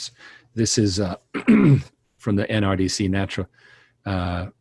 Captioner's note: throat clearing